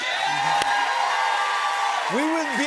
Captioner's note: cheers and applause